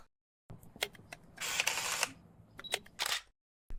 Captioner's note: camera whirring